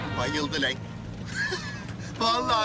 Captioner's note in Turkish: Gülme sesi